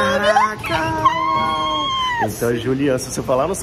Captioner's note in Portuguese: grita